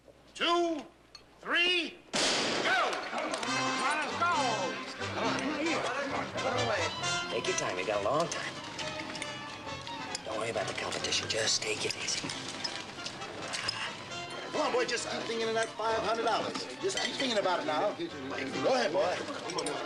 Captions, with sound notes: TWO... THREE... ( gunshot ) GO! ( people talking ) TAKE YOUR TIME. YOU'VE GOT A LONG TIME. DON'T WORRY ABOUT THE COMPETITION. JUST TAKE IT EASY. GO ON, BOY, JUST KEEP THINKING OF THAT $500. JUST KEEP THINKING ABOUT IT NOW. GO AHEAD, BOY.